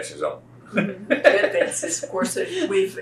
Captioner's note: laughs